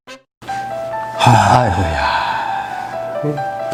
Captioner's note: sighs